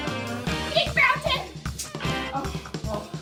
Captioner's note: smack